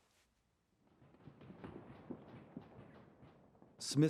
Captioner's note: gunfire